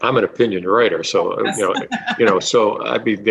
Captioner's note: laughing